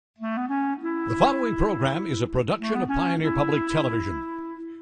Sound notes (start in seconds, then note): 0.2 mellow music; 1.9 voiceover